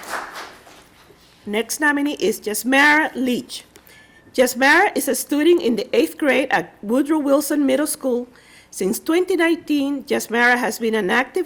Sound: applause

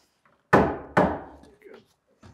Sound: hammering

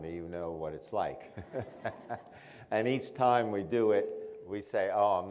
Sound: laughs

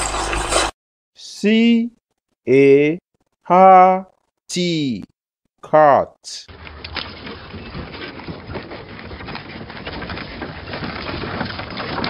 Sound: cart Sound

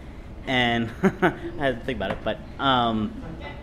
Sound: laughs

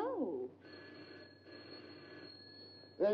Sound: phone rings

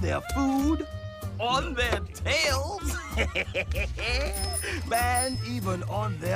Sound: laughs

